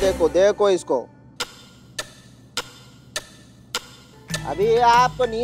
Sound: clock ticking

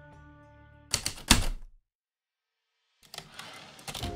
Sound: heavy typewriter keystrokes, typewriter return slide

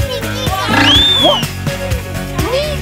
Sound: whistle blows

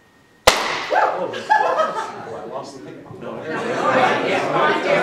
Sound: loud pop; laughter

